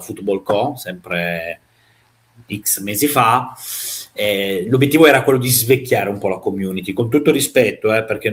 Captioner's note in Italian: sbuffare